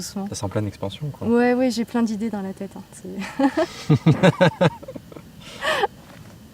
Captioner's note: laughs